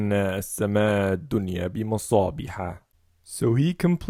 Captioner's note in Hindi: उर्दू